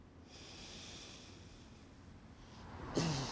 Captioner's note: Alyssa sighs; Mark grunting